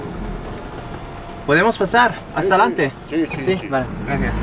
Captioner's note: in Spanish